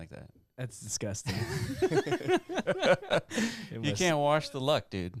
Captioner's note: laughter